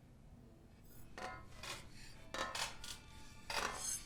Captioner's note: clanking metal